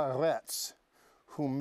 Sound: speaking Hebrew

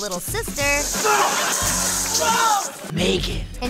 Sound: yelling

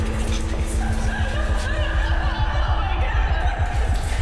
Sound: girls sobbing

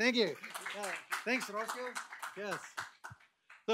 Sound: applause

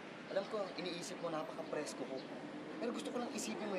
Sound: none

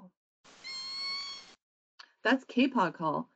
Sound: whale whines

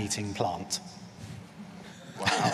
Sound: laughter

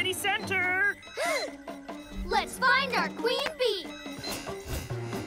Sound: gasps

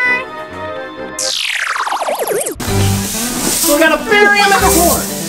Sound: electric static

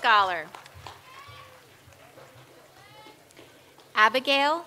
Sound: audience applauds

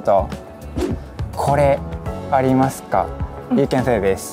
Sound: speaking in Japanese

